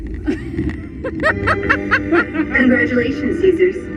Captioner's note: laughing